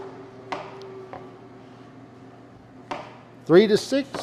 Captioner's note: knife thudding